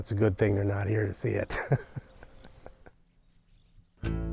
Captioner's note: laughs